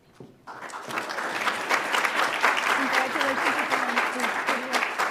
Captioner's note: audience applauds